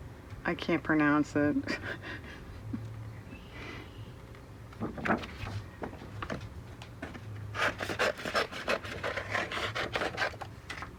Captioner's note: laughs